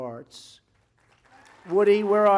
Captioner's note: applause